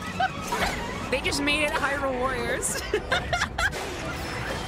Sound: laughter

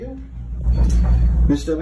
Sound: object knocking

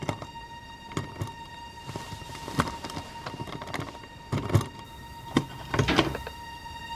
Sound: sound of a key twisting in the lock

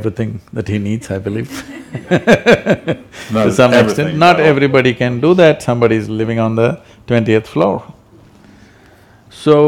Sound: laughter

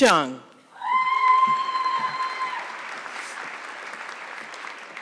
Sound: audience clapping

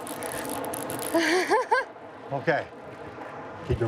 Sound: laughs

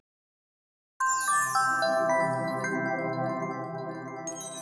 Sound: chimes

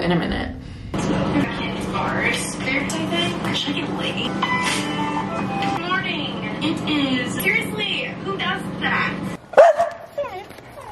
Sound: youtube video playing in background

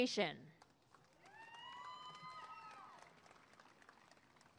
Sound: applause and cheering

